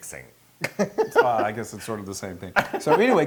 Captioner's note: laugh